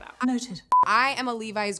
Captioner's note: electronic beeping